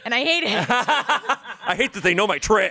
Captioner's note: everyone laughs